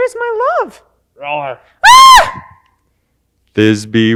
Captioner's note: Thisbe screams